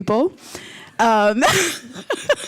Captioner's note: laughs